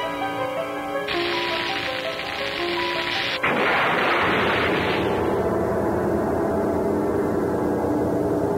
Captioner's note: dynamite ignition and explosion sounds